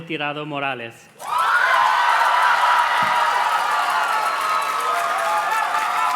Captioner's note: audience cheers and claps